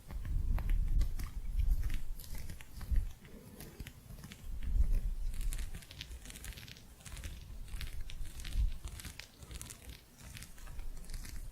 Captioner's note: gentle scratching